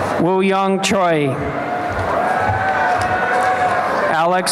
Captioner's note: applause